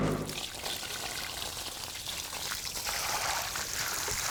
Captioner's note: water trickles